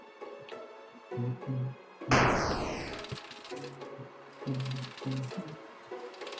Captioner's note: humming along